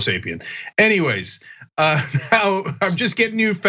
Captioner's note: laugh